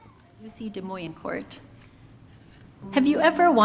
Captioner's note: student faintly speaking